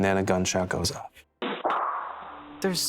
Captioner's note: gunshot